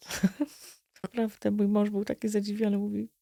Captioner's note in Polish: śmiech